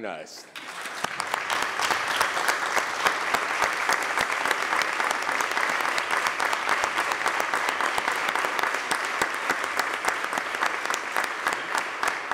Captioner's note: applause